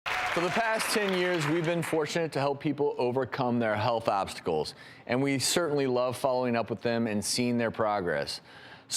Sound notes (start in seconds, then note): 0.0 audience applauds and cheers